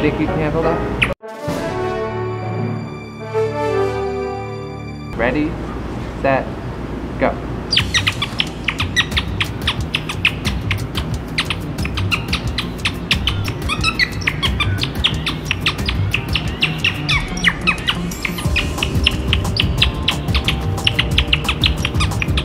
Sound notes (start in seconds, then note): 7.7 violent chirping; 14.1 vulgar chirps